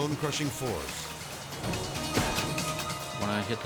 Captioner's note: edgy dramatic music; cycle crashing